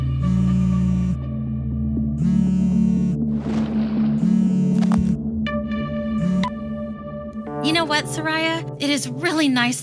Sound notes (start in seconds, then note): 0.6 phone trills; 4.2 phone buzzes